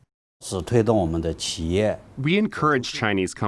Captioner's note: speaking foreign language